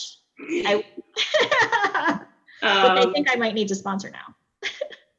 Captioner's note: laughs